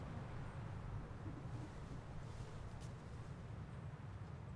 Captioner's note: quiet static